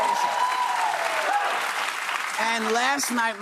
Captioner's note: applause